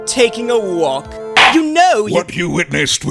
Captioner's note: gavel slams!